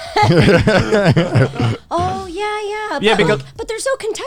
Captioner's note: all laughing